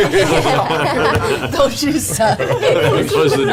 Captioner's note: Grog voice